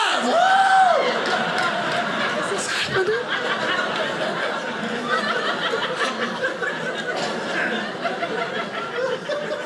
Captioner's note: audience laughing